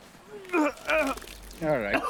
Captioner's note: deputy retches